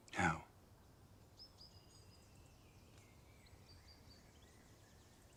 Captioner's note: birds chirping